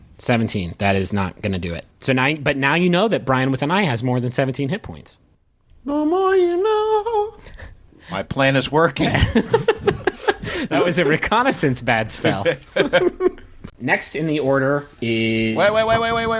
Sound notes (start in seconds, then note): 5.3 singsong; 9.0 laughing